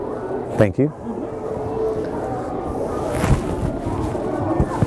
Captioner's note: kids chattering